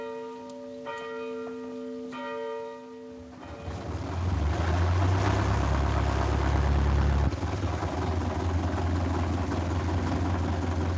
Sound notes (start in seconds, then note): none